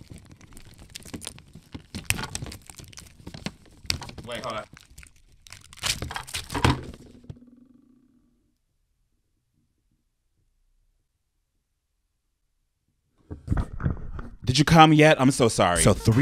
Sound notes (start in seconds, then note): 0.0 plastic crackling; 5.4 plastic thudding